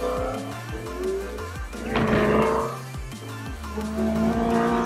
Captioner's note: engines whirring